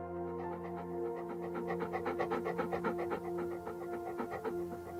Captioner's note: dog panting